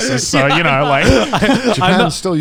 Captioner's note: group laughs